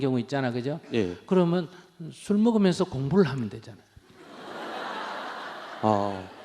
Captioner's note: audience Laughter